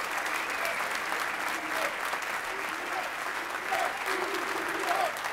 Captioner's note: audience chanting